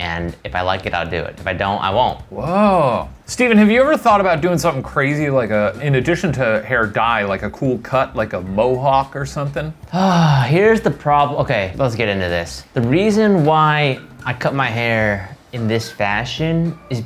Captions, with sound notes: And, if I like it I'll do it. If I don't, I won't. - Whoa. Steven have you ever thought about doing something crazy? Like in addition to hair dye like a cool cut. Like a Mohawk or something. - (sighs) Here's the problem. Okay, let's get into this. The reason why I cut my hair in this fashion